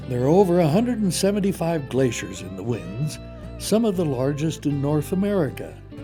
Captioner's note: voiceover